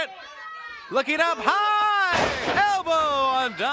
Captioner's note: crowd cheering